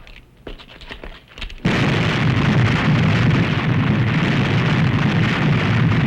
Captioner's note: explosion